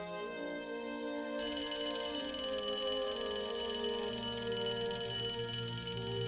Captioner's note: bell rings